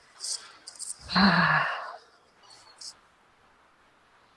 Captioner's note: sighs